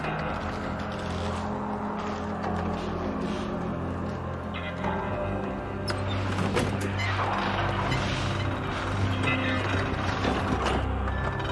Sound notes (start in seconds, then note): 6.0 pulley squeaking